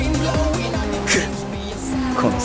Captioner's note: angry rally noises